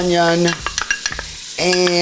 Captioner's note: spoon clattering